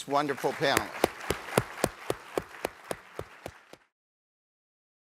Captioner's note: audience applauding